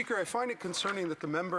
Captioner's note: speaking French